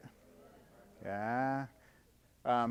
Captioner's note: audience chattering